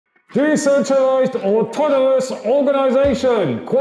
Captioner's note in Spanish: Gritando